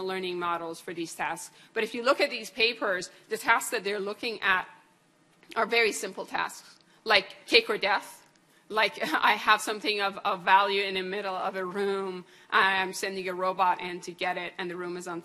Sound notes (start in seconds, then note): none